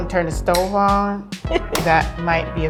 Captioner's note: laughs